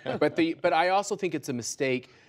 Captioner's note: laughter